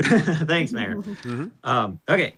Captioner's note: laughs